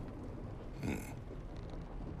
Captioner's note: grunt